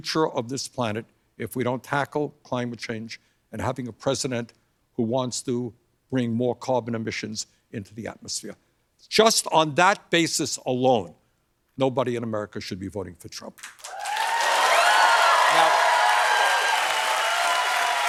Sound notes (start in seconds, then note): 13.7 cheers and applause